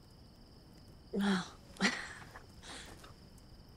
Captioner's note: chuckles